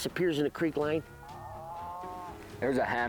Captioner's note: cow moos